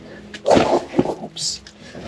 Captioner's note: gravel slipping